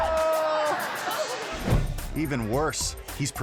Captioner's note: air whoosh